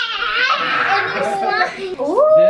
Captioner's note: children chattering